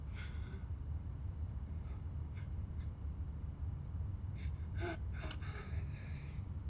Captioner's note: insects chirping; Brandy breathing heavily